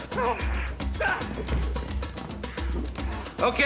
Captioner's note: grunting